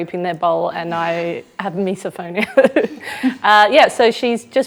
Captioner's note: laughs